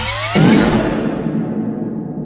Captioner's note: brapt